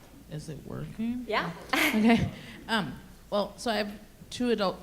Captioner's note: laughs